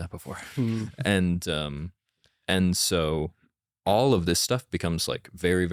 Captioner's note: laughs